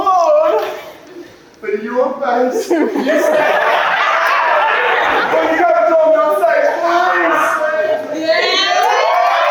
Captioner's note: audience cheers and laughs